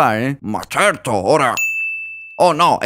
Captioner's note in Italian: ding